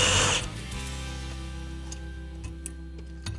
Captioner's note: drill whirring